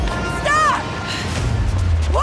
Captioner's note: yelling